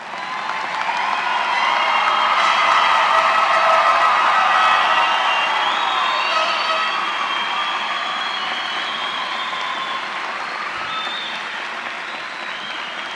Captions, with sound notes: >> Will all of the new baccalaureate graduates please stand? [ Applause ].